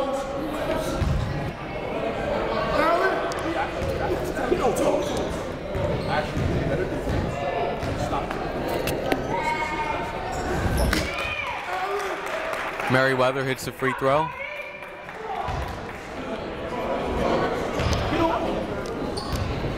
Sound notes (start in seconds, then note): 0.1 shouting; 5.5 shouting; 11.0 cheering